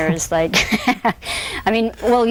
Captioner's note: laughs